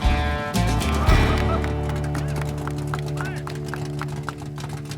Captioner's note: people applauding